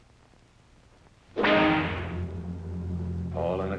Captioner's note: whip cracks; tense orchestral music